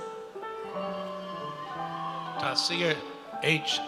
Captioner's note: audience cheers